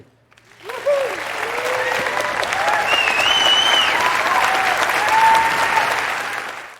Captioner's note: applause and cheers